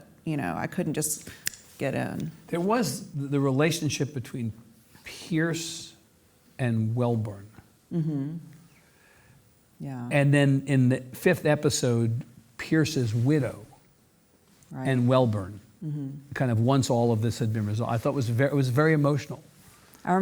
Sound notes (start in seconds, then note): 1.3 snaps; 8.0 hums